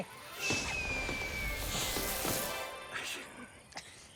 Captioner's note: fireworks whistling